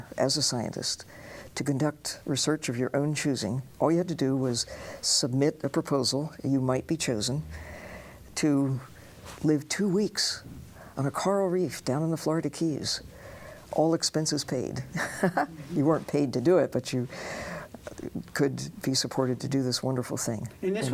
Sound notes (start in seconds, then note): 15.0 laughs